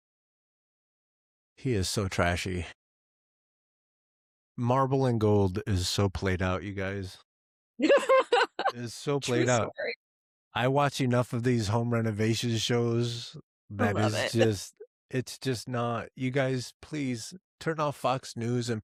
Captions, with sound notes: He is so trashy. Marble and gold is so played out, you guys. (Laughing) It is so played out. I watch enough of these home renovation shows. I love it. It's just not. You guys, please turn off Fox News and